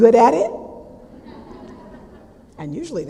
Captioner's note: audience laughter